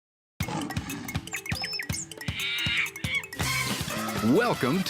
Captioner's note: animal sounds